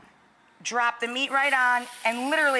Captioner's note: griddle sizzles